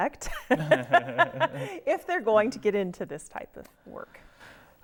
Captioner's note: laughing